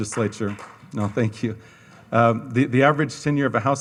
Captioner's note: audience applauds